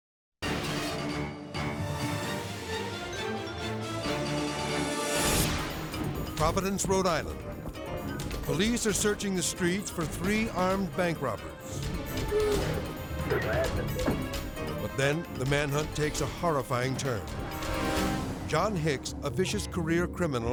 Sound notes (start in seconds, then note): 0.1 thrilling music; 4.8 graphics whooshing; 11.5 tense music; 17.1 tense music